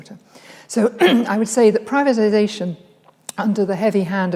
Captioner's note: clears throat